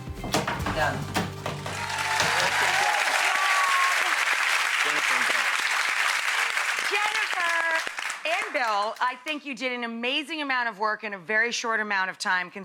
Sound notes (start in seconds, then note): 1.6 crowd cheers and applauds